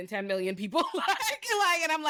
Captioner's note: laughs